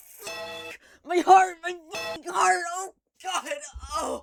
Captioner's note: bellring